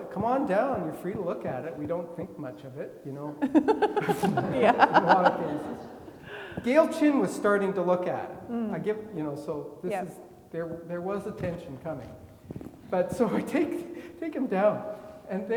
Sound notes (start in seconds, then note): 3.4 laughing; 5.4 faintly speaking